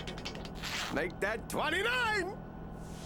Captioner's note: unzips zipper